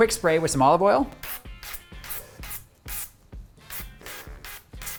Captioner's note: oil sprays